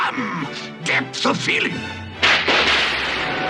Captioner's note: thunder